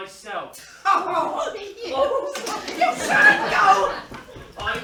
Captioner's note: both laugh